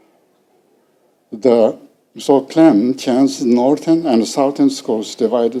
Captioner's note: speaking foreign language